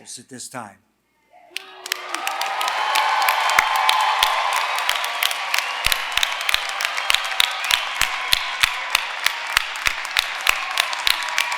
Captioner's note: applause